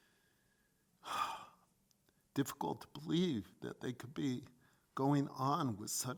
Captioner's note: sighs